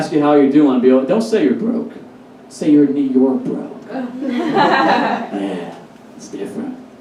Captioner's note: audience Laughs